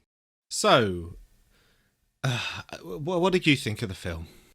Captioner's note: big ol' sigh